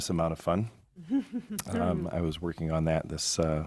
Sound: board member laughs

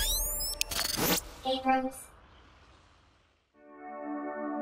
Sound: computer Voice

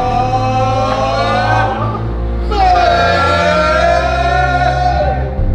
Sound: lads shouting louder and louder

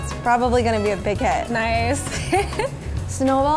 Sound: laughing

